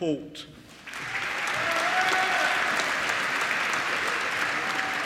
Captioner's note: applause